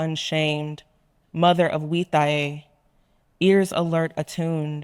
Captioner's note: speaking in foreign language